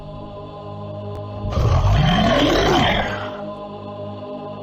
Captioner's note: monster Roar